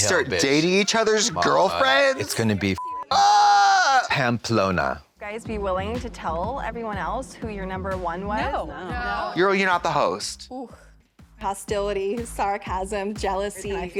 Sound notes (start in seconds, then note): 2.7 beep